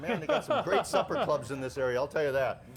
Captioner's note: laughing